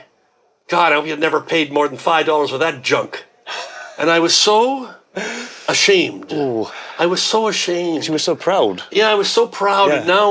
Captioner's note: laughs